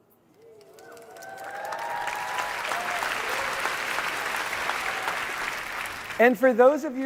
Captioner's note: applause